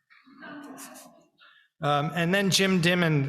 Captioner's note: people laughing